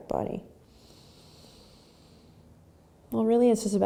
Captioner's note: breathing